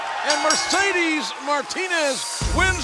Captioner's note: bell ringing